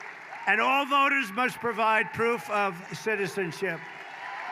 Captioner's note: applause